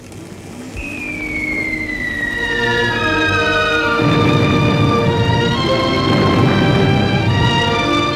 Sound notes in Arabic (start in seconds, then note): 0.8 صفارات ودوي المدفعية; 1.4 موسيقى درامية